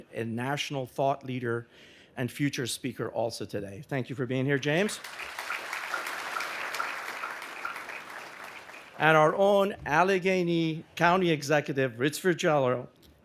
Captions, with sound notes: and national thought leader and future speaker also today. Thank you for being here, James. (audience applauding) And our own Allegheny County Executive Rich Fitzgerald